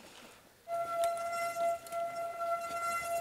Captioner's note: loud squeak